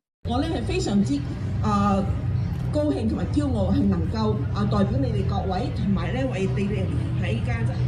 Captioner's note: speaking foreign language